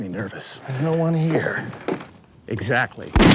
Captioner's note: gunshot